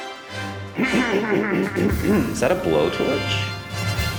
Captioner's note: clearing throat